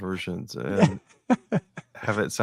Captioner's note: laughing